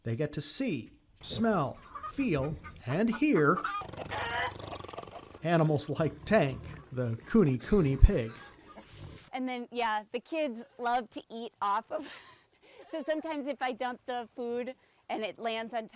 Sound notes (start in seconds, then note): 3.6 pig snorting; 4.1 chickens clucking; 12.4 laughs